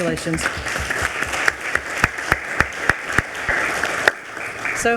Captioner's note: attendees applauding